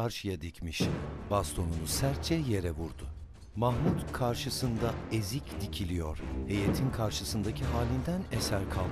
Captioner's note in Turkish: Baston vurma sesi; Müzik - Hareketli